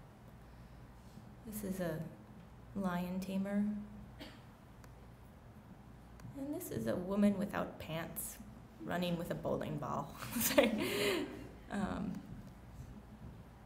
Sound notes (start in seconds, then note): 10.3 chuckles